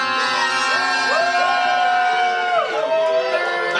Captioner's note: cheering